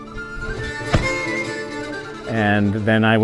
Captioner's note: axe thumps